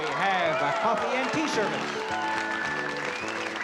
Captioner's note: applause; upbeat music